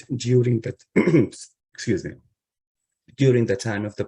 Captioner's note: clears throat